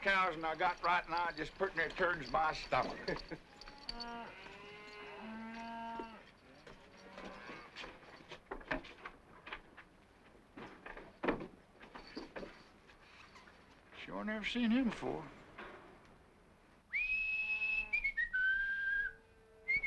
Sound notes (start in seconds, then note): 2.8 Tom chuckles; 3.5 cows mooing; 16.9 Sam whistling